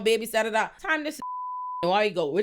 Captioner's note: beep